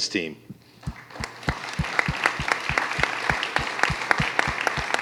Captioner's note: applause